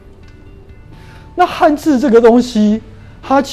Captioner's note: chinese words